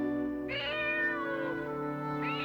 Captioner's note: meowing